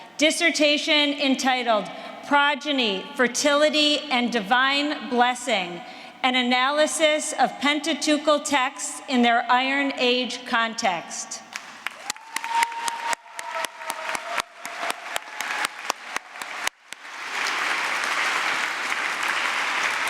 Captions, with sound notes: Dissertation entitled, "Progeny, Fertility, and Divine Blessing, An Analysis of Pentateuchal Texts in their Iron Age Context." [APPLAUSE]